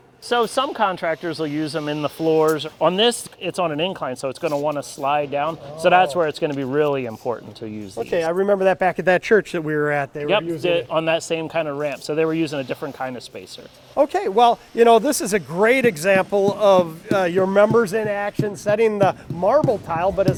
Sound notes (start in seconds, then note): 16.4 hammer thudding